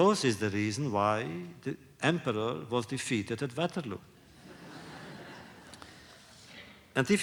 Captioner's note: laughter